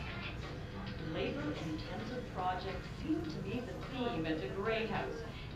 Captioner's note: TV: Woman Narrator